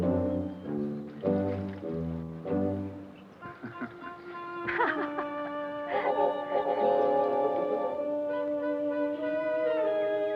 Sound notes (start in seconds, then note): 3.4 Don chuckles; 3.4 Pilar laughs; 7.6 curious music